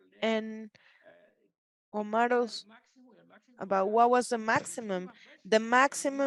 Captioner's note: speaks Spanish